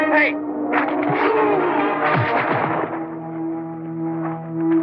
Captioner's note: thud